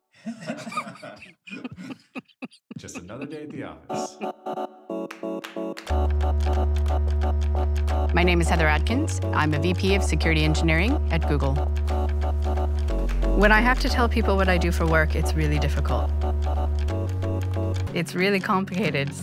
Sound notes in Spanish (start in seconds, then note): 0.2 El director ríe; 3.9 ríe